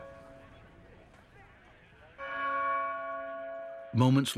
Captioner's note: tolling continues